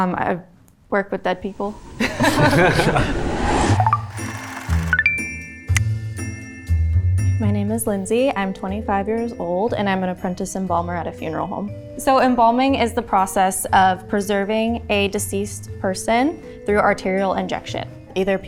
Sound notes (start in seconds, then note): 2.0 all laughing; 4.5 soft music